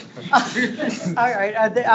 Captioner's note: board members laughing